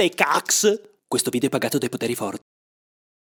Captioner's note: voiceover